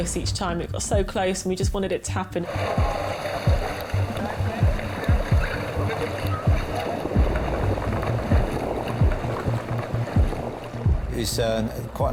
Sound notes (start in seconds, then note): 2.5 tense music; 3.3 water splashing; 9.4 tense music continues; 9.4 water splashing